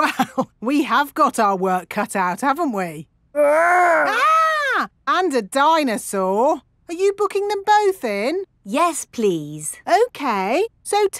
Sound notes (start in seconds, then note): 0.0 chuckling; 3.4 mock screaming